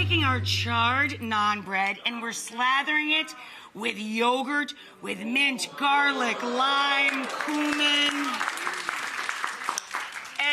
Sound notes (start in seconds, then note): 6.2 audience groaning; 8.0 audience clapping